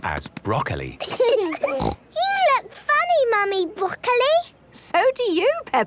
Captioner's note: laughing, snort